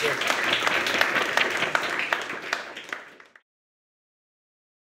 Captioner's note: crowd applause